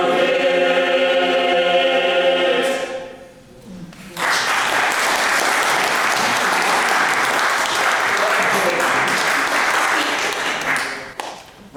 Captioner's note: applause